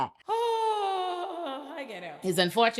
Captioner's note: sighing; laughing